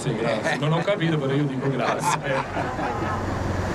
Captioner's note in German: Er spricht italienisch